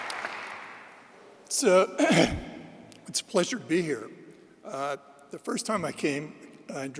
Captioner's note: applause; clears throat